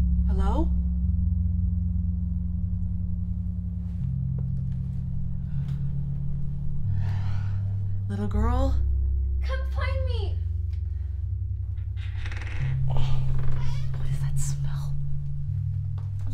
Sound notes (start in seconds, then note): 11.6 wood creaking; 11.9 Vanessa grunting